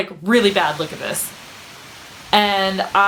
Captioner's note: sound of wind gusting